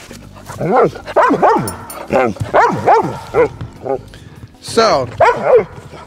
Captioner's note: dog barking